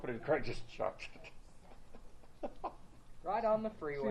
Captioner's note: laughs